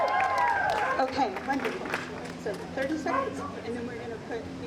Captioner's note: audience applauding